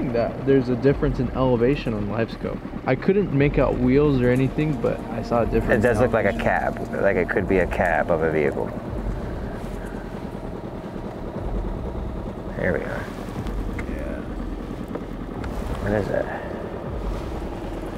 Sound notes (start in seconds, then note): 9.0 engine droning; 9.0 ominous music continues